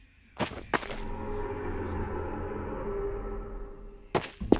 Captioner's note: distant groaning reverberates